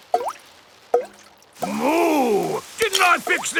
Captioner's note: water dripping